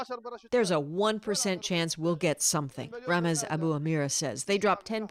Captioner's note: speaking alternate language